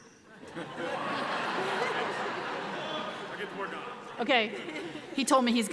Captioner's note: audience laughs